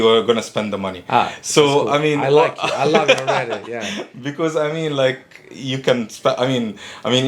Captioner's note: laughing